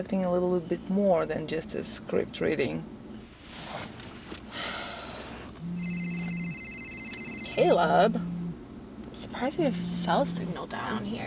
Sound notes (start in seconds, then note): 4.5 Farrah sighs; 5.6 phone rings and vibrates